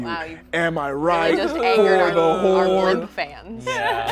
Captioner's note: overlapping chattering